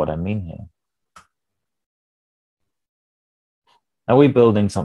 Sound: mouse clicks

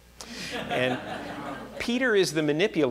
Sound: audience laughing

